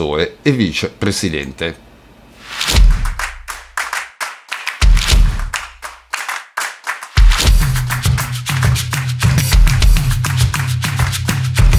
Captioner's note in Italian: Applauso